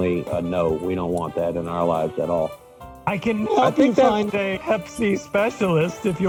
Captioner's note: laughter